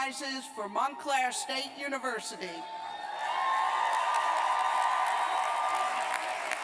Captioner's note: cheers and applause